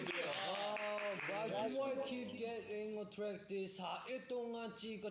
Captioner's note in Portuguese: Aplausos